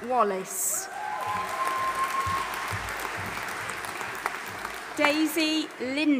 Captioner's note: audience applauding and cheering